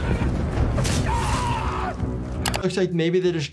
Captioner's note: knight screaming